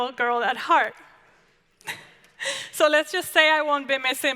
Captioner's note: laughs